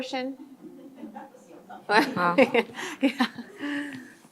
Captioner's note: laughing